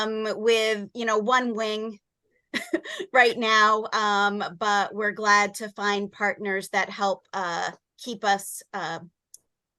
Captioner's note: chuckle